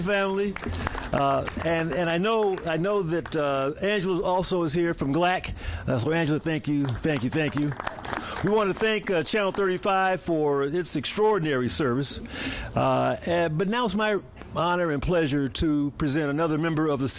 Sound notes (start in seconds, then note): 0.4 applause